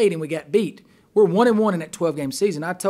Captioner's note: voiceover